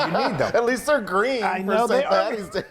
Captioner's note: laughs